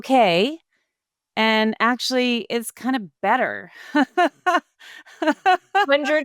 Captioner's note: laughing